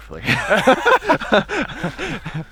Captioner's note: both laughing